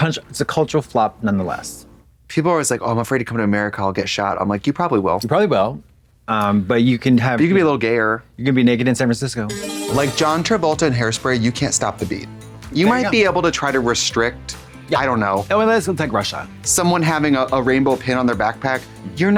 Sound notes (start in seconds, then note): 9.5 bright chime